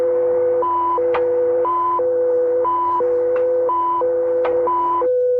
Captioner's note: switches clicking